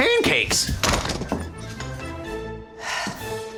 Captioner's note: slams door shut; sighs